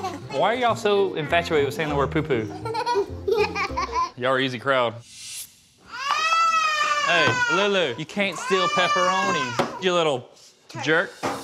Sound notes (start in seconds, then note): 2.5 laughs; 5.9 girl crying